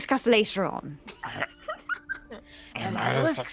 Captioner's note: people laughing